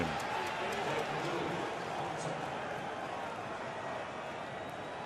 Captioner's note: stadium announcement, cheering